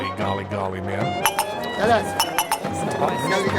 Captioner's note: non-english speech